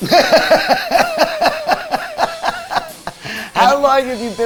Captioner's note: laughs